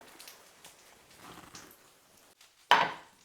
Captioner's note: sizzling sound